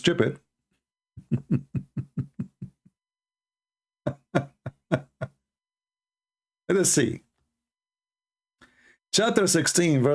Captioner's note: Ketawa